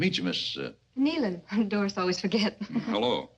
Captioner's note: chuckles; women chuckle